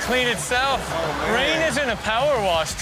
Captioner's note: audience laughs